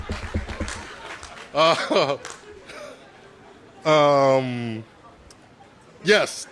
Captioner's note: cheers and applause; laughter